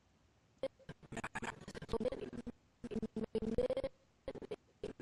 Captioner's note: audio skipping